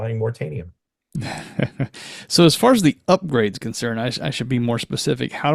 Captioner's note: chuckles